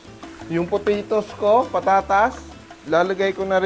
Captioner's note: sizzle